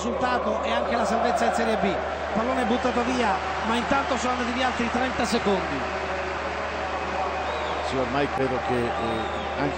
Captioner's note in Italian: Applauso